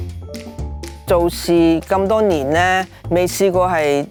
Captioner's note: Cantonese